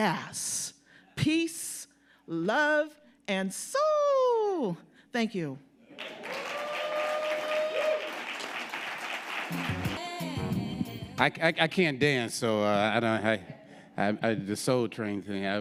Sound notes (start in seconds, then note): 5.9 audience applauding; 9.4 upbeat music